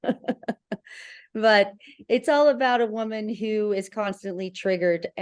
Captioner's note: laughter